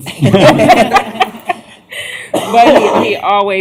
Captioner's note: laughter